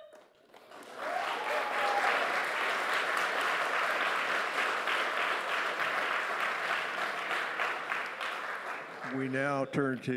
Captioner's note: applause